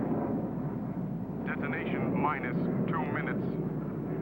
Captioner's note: man On Radio